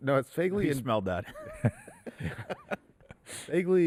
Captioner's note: laughs